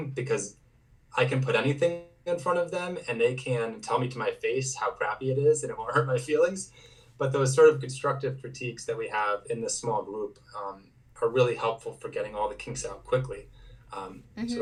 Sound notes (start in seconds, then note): none